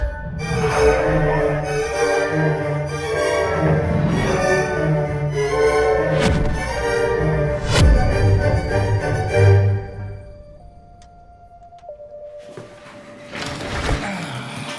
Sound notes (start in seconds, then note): 0.2 music rising triumphantly; 6.2 airy whoosh; 8.0 cracking whoosh; 13.3 gear rustling